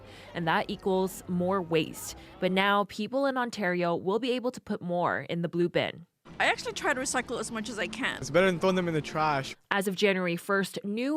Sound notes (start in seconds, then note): none